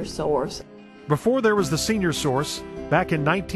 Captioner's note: voiceover